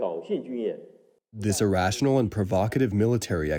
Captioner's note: through translator